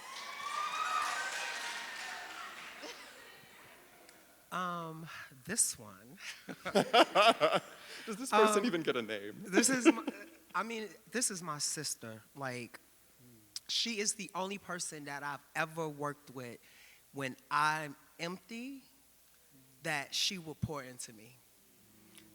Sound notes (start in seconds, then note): 0.0 audience cheering and applauding; 6.2 laughing